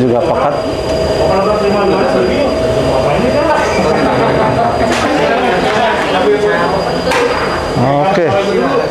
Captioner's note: distant chattering